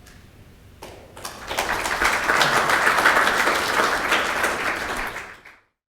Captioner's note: audience applauding